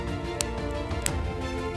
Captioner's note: fire crackling